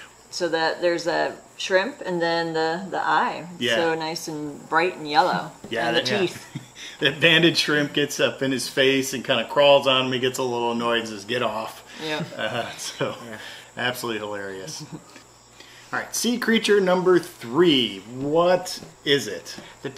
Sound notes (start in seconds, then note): 6.0 chuckles; 12.0 chuckles